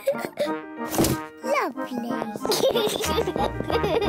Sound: giggles

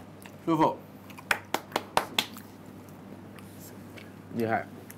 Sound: claps for the chefs

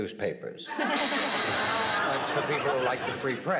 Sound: buzzer

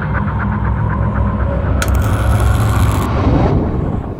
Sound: light buzzes

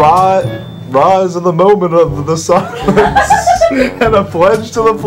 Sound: laughter

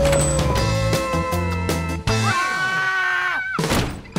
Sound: animal howling; both screaming

